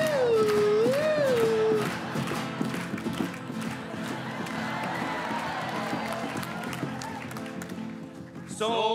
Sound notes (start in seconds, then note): 4.8 audience cheering